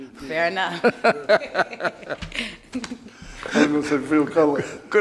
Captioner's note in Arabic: يضحك